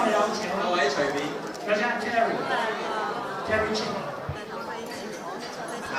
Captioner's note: all chattering